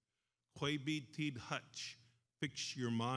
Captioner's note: speaks in foreign language